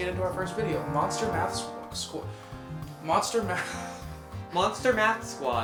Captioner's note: laughs